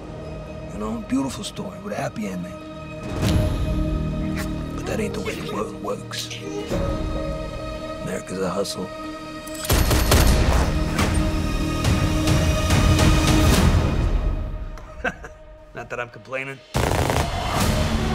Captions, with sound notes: You know, beautiful story with a happy ending. But that ain't the way the world works. America's a hustle. (GUNSHOTS) (CHUCKLES) Not that I'm complainin'. (GUNFIRE)